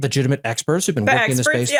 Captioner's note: laugh